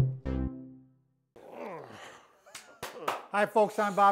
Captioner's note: grunts; claps